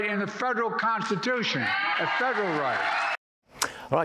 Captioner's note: cheers and applause